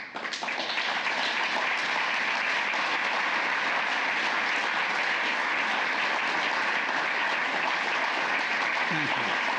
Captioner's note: applause